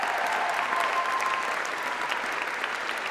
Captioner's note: applause